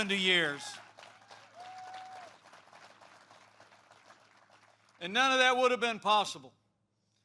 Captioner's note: applause